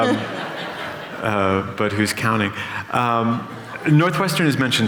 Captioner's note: laughter